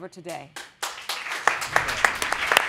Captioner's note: applause